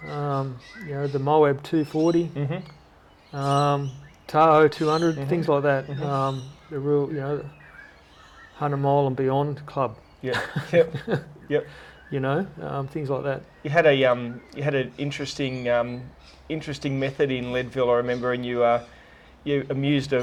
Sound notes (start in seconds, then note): 10.2 laughter